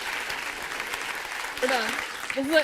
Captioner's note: applause